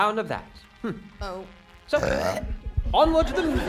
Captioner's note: belches; laughing and cheering